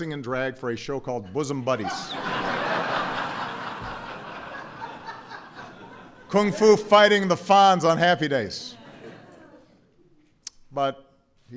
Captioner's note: laughter